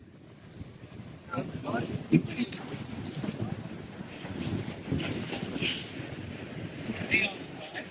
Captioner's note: wind